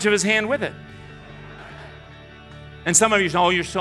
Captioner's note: audience laughing